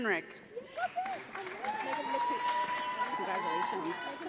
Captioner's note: audience applauds